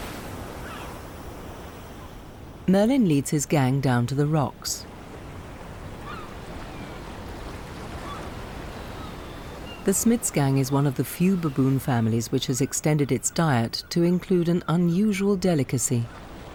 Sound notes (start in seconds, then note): 6.0 birds squawking; 6.0 waves crashing